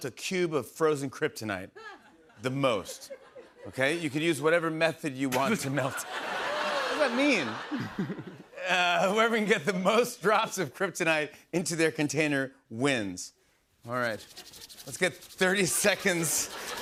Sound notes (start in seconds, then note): 5.3 laughter